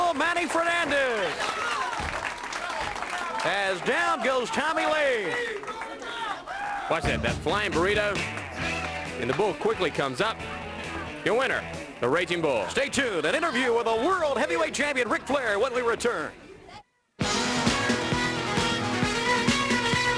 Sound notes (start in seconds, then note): 5.0 crowd cheering; 7.0 crowd chatter